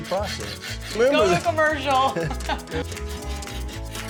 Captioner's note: laughing